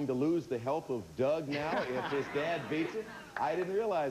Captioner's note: audience laughing